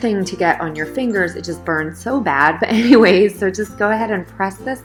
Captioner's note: laughter